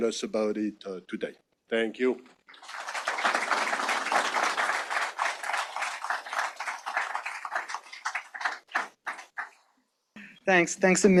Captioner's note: audience applause